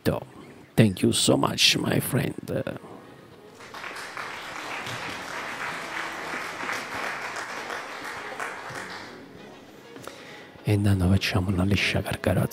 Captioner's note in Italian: Applauso